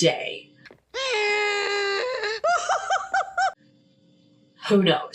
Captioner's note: laughs